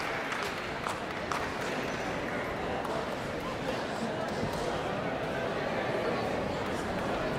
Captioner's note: audience members chattering indistinctly